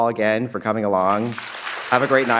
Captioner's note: audience applauding